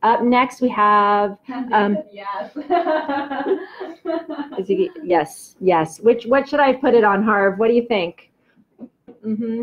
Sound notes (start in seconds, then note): 2.4 laughs